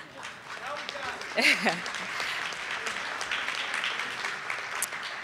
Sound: audience applauding

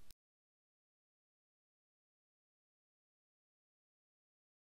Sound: silence

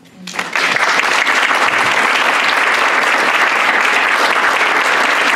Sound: applause

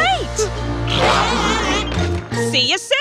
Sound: sneezing

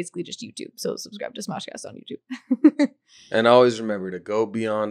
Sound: laughing

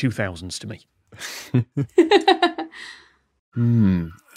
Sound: laugh

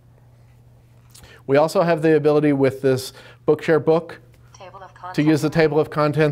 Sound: computer voice: Table of Contents

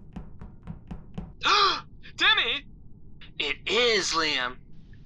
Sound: gasp

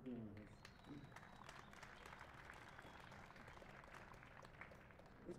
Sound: cheers and applause

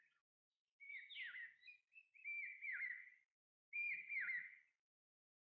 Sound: birds Chirping

